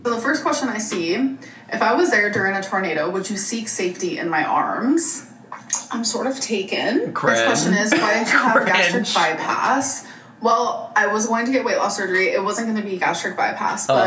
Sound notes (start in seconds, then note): 7.3 laughs